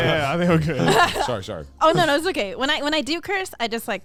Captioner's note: hosts laugh